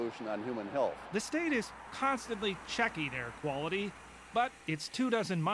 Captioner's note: voiceover